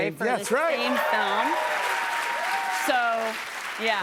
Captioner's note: cheers and applause